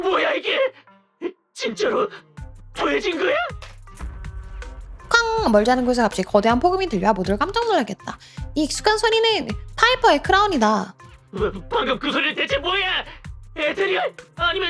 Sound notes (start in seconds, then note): 3.7 bang